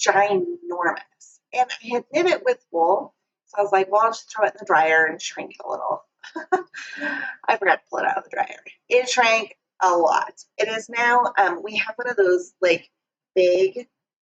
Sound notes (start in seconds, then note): 6.3 laughs